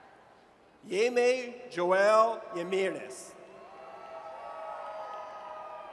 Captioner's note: audience cheers